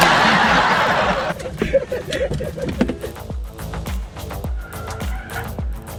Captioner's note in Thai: เสียงหัวเราะ